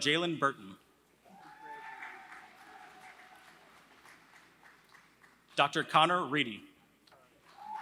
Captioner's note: applause